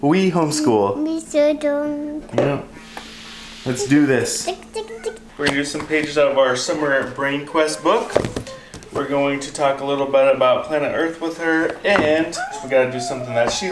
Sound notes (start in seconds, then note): 0.4 babbling